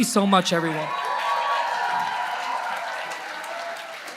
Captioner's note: applause